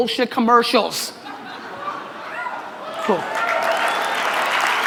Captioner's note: audience applause